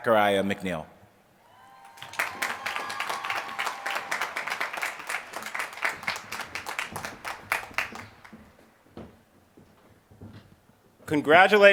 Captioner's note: applause